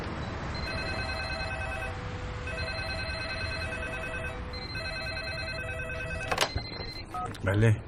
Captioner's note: street noises; phones ringing